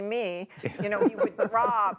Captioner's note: laughter